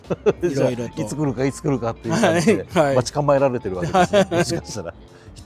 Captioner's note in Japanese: 笑い